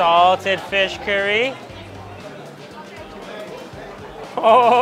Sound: people chattering

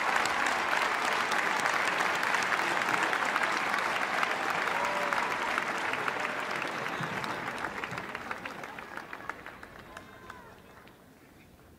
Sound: cheers and applause

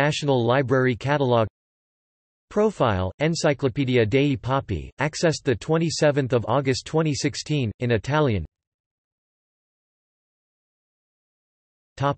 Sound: in Italian

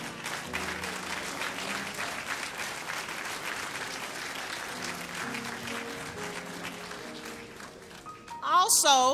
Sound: applause

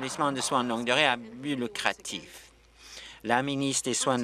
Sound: applause

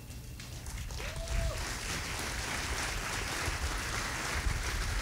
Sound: audience applauding

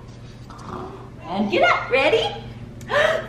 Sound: snores

